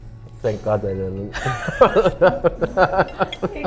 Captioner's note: laughs